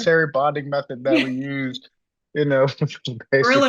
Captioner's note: laughs; laughs